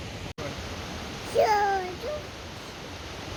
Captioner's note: toddler noises